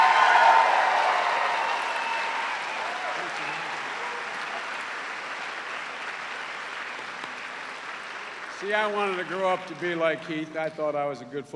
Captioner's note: cheers and applause